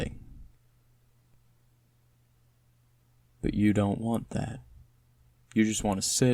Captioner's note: pause